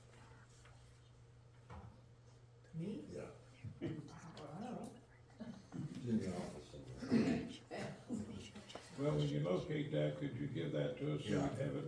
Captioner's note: laughter